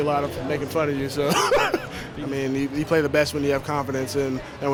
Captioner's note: laughing